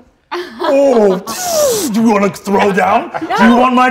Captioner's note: imitates whizzing